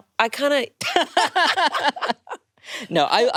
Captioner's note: both laughing